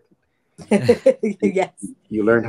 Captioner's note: laughing